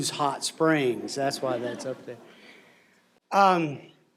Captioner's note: laughter